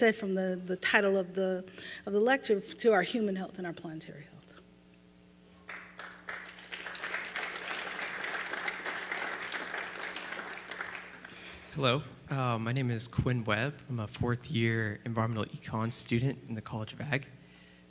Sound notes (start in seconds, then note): 5.6 applause